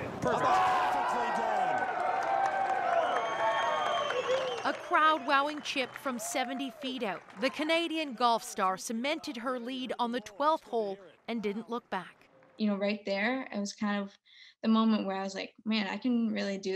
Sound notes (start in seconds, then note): 4.5 cheers and Applause